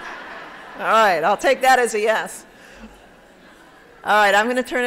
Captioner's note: laughter